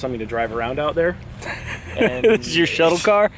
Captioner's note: laughing